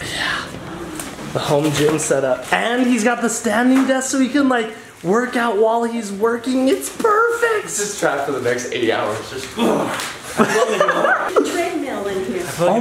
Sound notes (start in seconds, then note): 9.5 grunting; 10.2 laughing